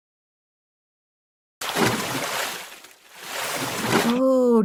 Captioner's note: splash!